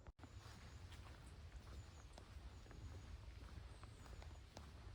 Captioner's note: bird song